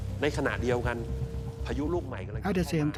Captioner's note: man speaking Thai